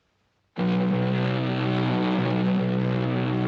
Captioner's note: horn Blowing